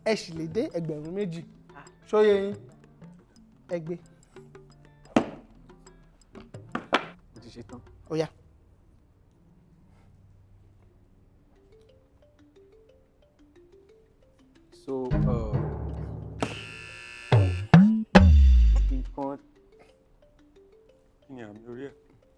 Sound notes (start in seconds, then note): 16.4 buzzer pressed